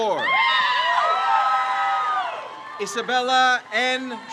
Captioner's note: crowd cheers